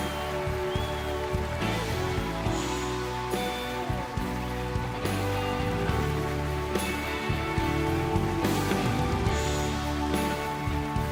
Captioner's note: applause